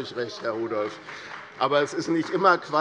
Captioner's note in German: Beifall bei Abgeordneten der CDU